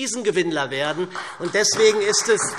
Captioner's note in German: Beifall